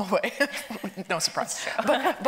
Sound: laughs

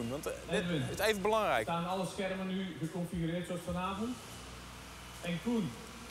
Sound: speaks in foreign language

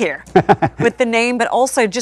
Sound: laughing

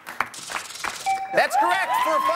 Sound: chimes

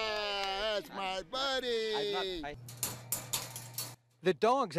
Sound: cage lock clacking

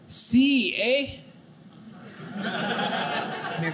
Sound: audience laughing

